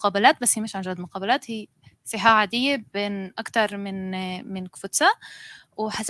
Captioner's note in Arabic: لغة أجنبية